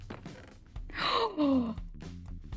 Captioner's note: gasp